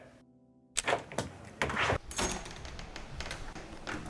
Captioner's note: door opening